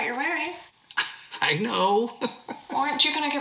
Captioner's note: laughs